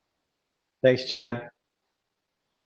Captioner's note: audio is choppy